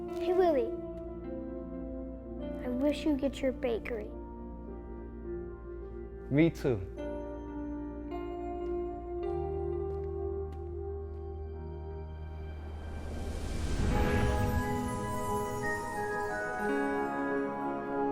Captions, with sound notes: - Hey, Willie, I wish you get your bakery. - Me too. (gentle music) (air swooshes) (majestic music)